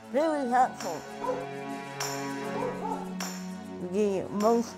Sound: dogs barking

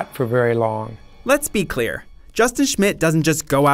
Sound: voiceover

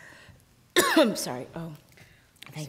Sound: coughing

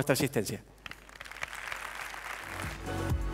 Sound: applause

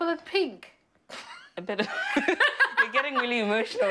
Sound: they both laugh

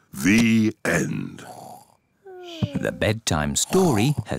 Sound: both snore

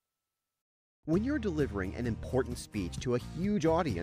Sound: voiceover

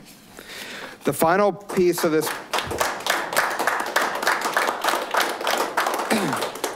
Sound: audience applauding

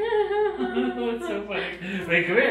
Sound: laughing

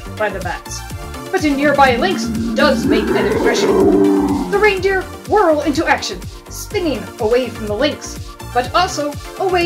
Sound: growling

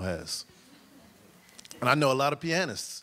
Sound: audience chuckles

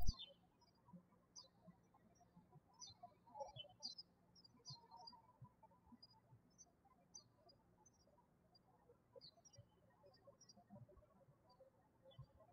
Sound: birds chirping

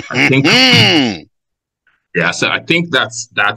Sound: laughs

